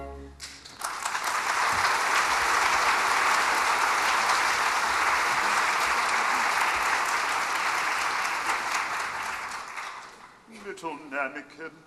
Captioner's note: applause